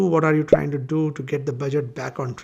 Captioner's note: bubble popping